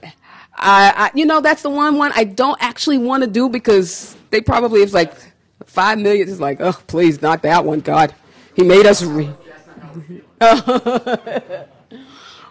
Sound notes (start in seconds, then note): 10.4 laughs